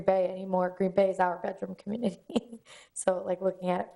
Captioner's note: laughs